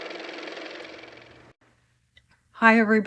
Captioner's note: car motor